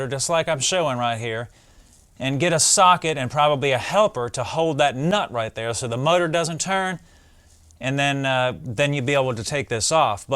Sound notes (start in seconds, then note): none